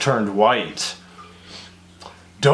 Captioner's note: sniff